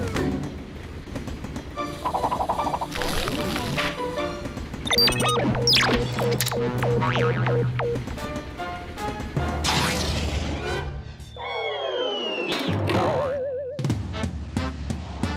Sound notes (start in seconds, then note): 4.8 beeping; 6.8 boing; 11.1 whistling; 12.9 boing